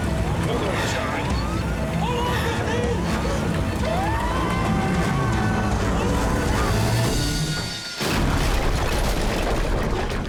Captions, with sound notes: Hold on, Christine! [screams] Hold on!